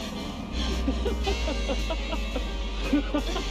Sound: panting; Biff laughs

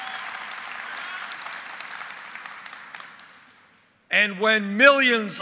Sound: applause

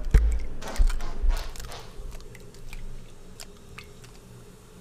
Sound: eggs boiling

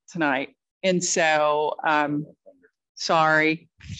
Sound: muffled speaking

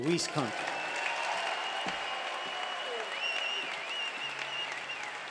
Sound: crowd cheering

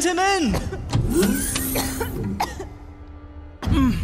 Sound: electric door opens; groaning

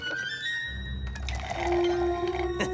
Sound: slurping

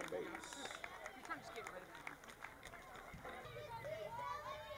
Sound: crowd cheering

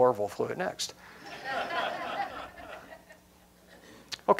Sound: laughter

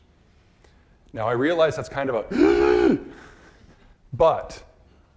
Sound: shrieking

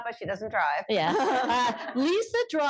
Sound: laughter

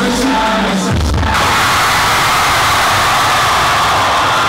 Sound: crowd screams

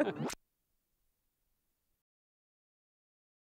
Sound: Reporter and Paulsen laugh; silence

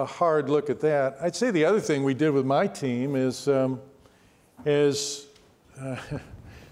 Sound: chuckles

